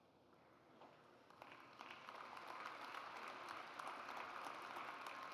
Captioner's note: audience applauds